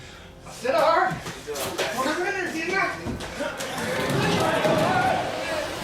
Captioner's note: shouting